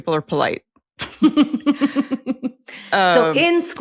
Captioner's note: laughs